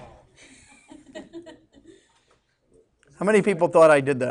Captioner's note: students laughing